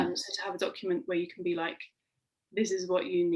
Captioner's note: none